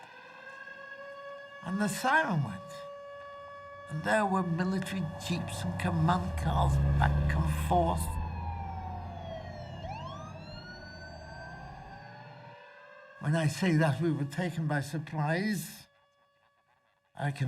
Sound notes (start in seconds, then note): 0.3 air-raid sirens blaring; 10.2 emergency vehicle sirens blaring